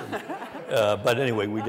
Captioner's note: laughter